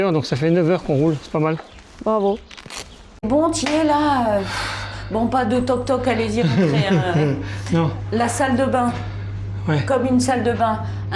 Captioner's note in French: soupir